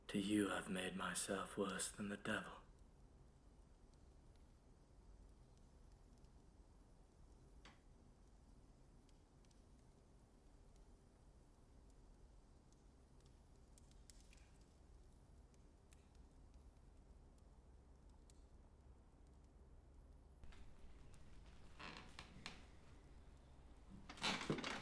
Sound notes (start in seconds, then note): 12.6 flames crackling; 20.4 chair creaking